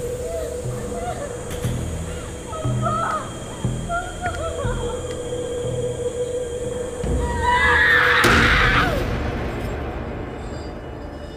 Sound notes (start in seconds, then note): 0.0 woman crying; 7.2 woman screaming; 8.2 dramatic music